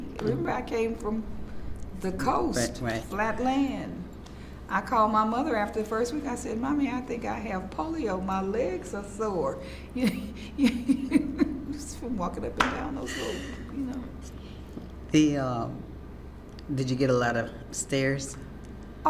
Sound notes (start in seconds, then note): 0.0 laughs; 10.0 laughs